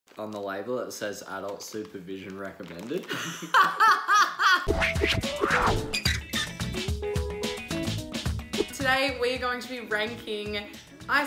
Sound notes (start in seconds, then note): 3.1 laughing; 4.6 upbeat music